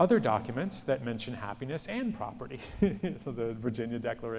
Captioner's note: laughs